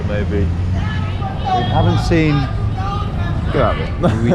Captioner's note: man screaming; laughs